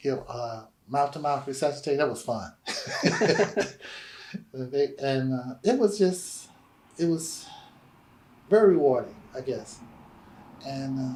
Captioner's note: laughter